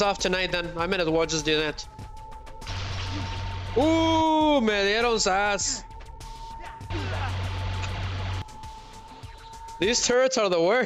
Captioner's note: screaming